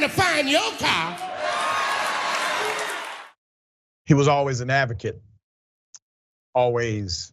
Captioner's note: applause